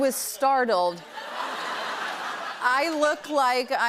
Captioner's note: laughter